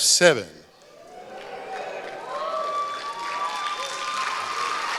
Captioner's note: applause